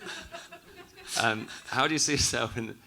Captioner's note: audience laughing